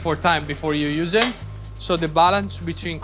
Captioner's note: tray thuds